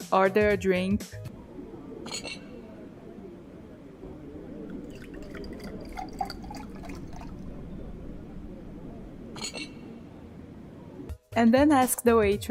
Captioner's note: drink pouring